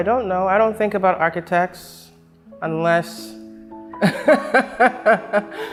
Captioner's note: laughs